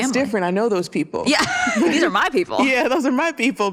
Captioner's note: laughs